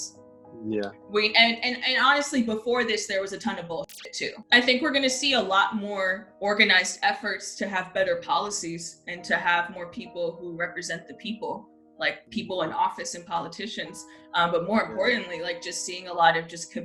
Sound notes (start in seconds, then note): 3.8 static